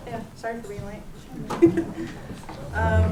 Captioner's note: laughs